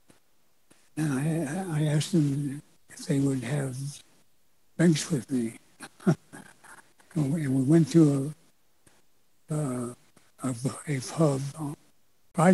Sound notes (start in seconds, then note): 5.8 chuckles